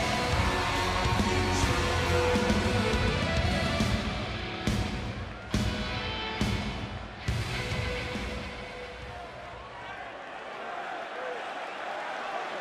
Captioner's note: crowd cheering